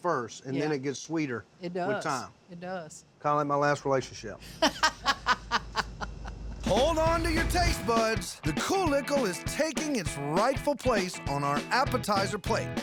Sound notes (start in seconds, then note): 4.5 laughter